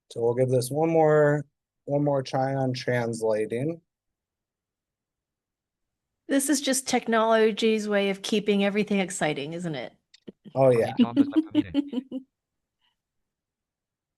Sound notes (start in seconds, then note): 10.7 chuckling